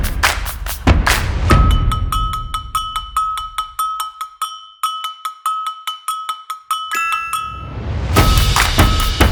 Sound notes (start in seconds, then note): 1.6 bell clinking; 7.1 fast upbeat music; 7.4 bell clinking; 8.2 fast rhythmic clapping